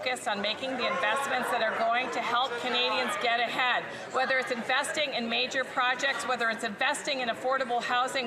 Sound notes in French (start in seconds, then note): 2.2 voix de l'interprète